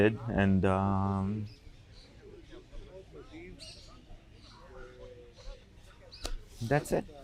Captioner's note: pauses 6 seconds